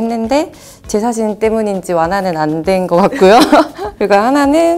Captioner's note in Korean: 웃음